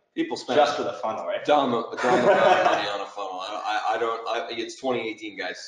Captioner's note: laughing